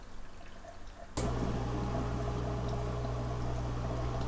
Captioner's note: humming sound